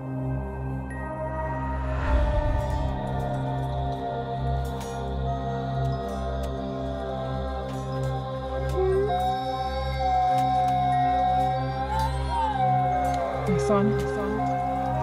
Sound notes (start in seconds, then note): 8.4 wolf howls